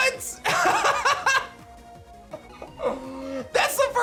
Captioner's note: laughs